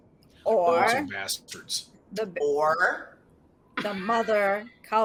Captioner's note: speaks faintly